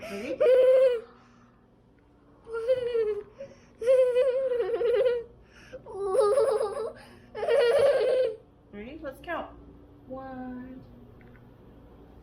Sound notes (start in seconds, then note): 3.0 whimpering